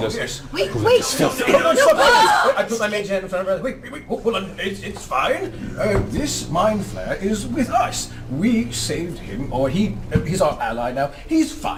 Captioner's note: screams